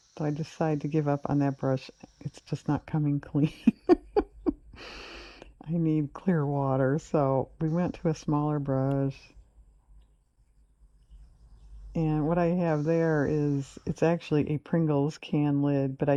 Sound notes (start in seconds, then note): 3.5 laughs